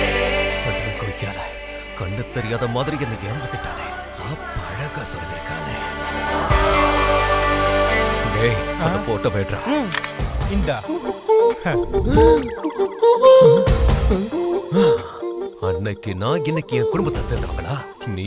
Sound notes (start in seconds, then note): 9.9 camera clicks; 12.0 gasps